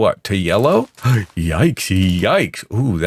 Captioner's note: gasps